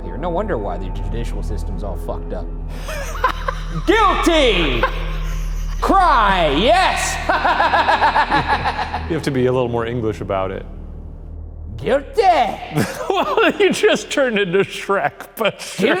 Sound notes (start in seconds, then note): 2.7 laughing; 6.6 imitating wicked laughter; 12.2 laughing